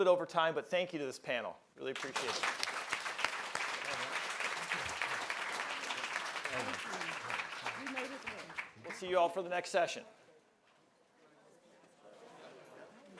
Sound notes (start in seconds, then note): 4.8 applause